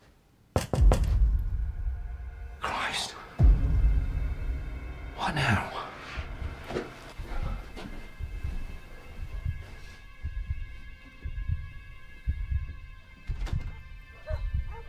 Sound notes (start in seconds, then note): 0.6 door knocking; 6.4 dramatic music; 8.3 heart pounding